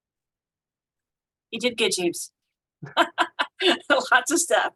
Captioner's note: laughter